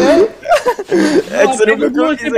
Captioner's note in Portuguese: risos